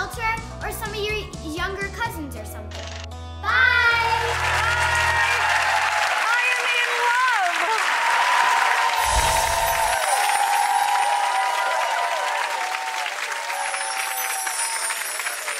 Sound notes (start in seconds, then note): 5.4 audience cheers; 8.6 audience applauds, cheers